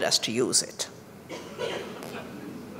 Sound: laughter

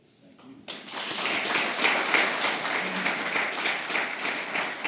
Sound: applause

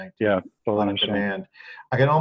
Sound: overlapping chatter

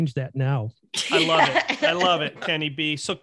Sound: laughing

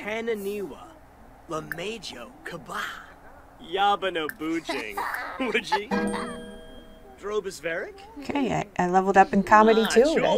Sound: Simlish

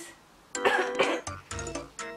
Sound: cough cough

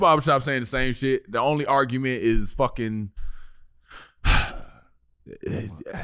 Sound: sighs

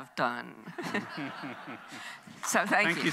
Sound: audience laughs

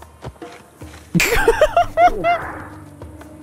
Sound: laughs

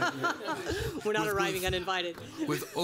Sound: laughter

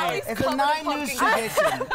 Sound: laughter

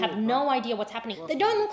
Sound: speaking Foreign Language

